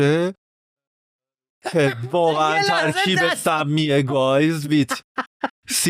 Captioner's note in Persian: خنده